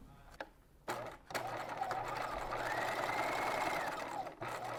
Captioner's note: machine whirring